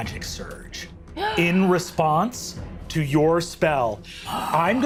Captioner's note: Siobhan gasps